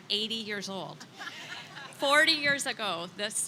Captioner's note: attendees laughing